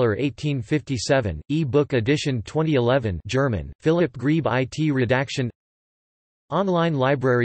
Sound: German

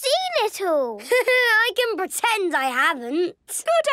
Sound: Danny laughing

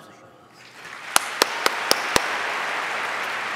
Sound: applause

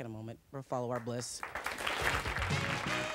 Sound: audience applause; theme music

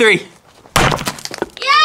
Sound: sledgehammer hits

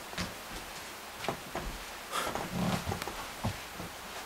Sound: sounds of footsteps right in front of me

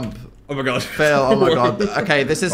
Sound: laughs

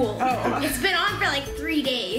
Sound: laughs

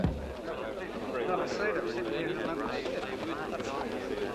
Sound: crowd murmuring

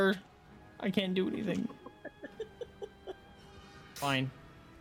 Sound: chuckling

